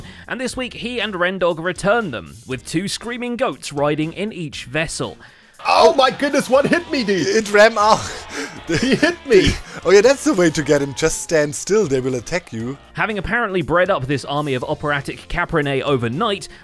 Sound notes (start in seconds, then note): 6.6 many goats screaming